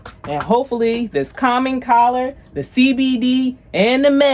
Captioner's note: none